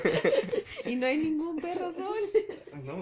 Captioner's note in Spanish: risas